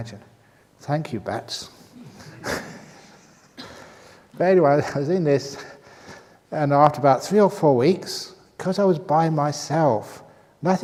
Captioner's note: laughs